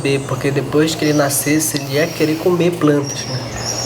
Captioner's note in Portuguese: pássaros cantando